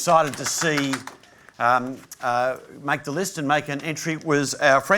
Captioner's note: applause